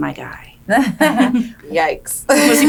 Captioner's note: laughing